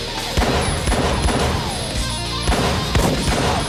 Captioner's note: guns firing